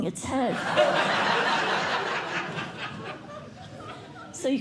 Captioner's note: laughter